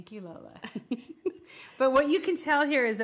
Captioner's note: laughs